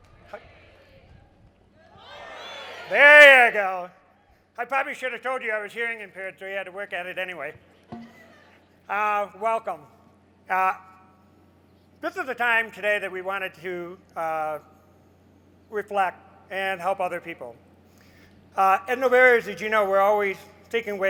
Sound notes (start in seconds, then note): 1.6 crowd murmurs, good morning